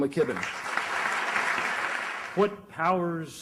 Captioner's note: dinleyiciler alkışlar